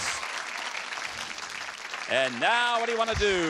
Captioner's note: applause